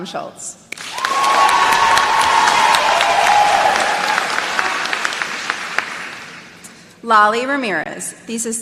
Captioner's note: applause